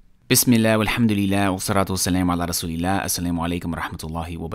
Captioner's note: speaking arabic